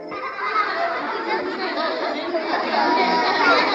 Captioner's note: children laughing